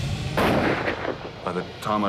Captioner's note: gunshot